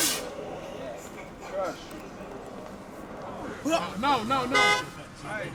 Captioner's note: crew chatter; man shouts, horn honks